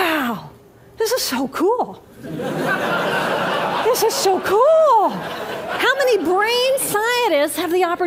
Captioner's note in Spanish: Risas